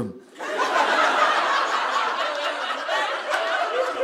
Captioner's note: audience laughing